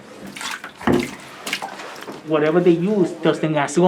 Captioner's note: water splashing